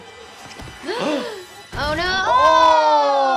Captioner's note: both gasping